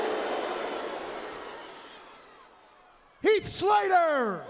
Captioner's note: crowd cheering